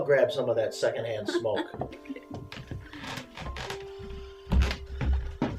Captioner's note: chuckles